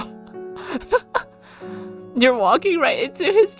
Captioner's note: laughs